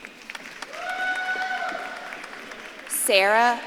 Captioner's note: audience claps and cheers